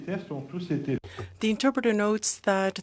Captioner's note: speaking french